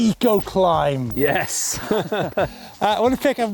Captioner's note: laughing